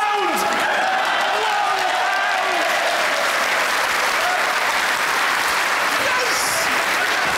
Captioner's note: audience cheers and claps